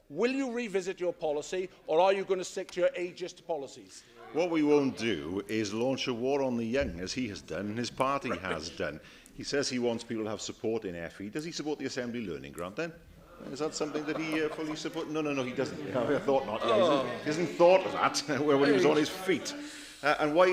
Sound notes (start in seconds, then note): 13.5 laughter